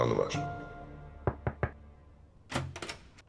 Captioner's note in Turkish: Kapı Çalıyor